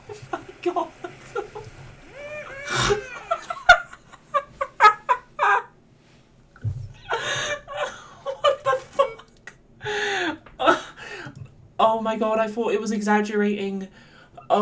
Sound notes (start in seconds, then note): 2.2 bursts out laughing again